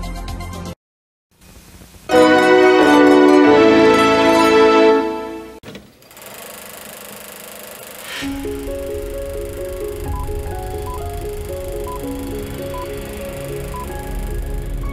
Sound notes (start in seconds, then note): 2.1 nostalgic music plays; 5.7 film projectors rolling; 8.3 inspiring music playing; 11.2 beeping